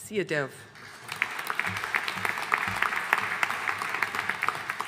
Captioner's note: audience applauding